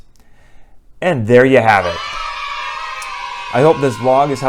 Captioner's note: kids cheering